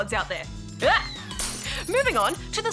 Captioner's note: glass shatters